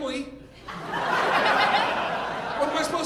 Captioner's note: audience laughing